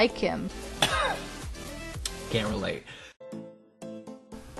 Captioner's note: cough